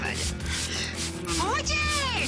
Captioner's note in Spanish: Ruido al rociar